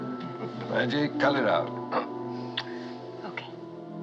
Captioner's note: giggling